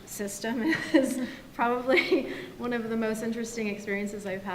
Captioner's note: laughs